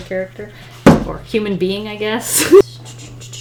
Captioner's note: laughs